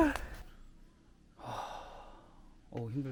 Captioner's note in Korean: 깊은 한숨